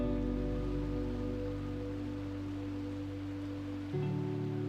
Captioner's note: water flowing